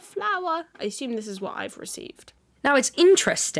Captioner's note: whispering; normal voice